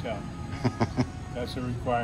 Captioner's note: laughs